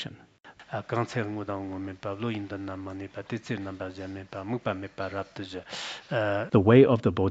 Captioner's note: citing scripture in Tibetan